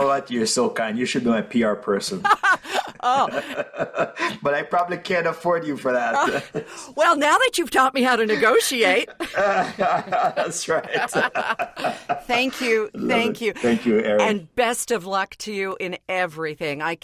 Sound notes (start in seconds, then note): 2.2 chuckles; 2.3 laughs; 10.3 laughter